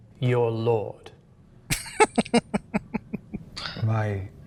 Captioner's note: laughing